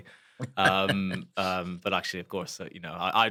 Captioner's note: laugh